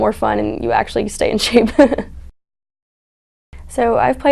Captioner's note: chuckles